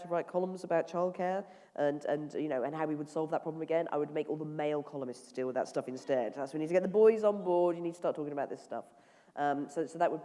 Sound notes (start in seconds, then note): none